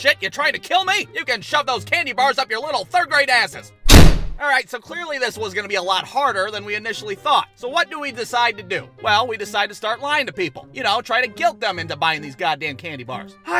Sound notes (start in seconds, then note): 3.8 door slams